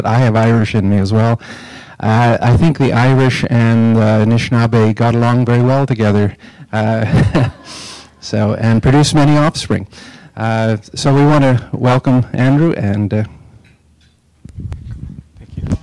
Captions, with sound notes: I have Irish in me as well. I think the Irish and Nishnawbe got along very well together. (laughing) And produced many offspring. So we want to welcome Andrew.